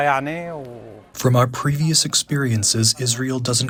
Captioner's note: through translator